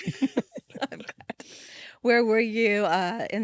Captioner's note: group laughing